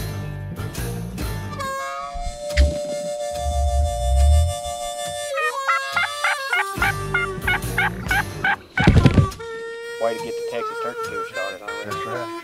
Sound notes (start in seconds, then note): 0.1 western music; 6.2 turkey calling